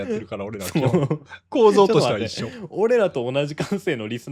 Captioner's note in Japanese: 笑い